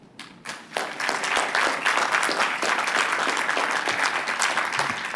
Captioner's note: applause